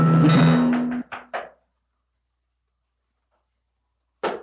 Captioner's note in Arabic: طرق الباب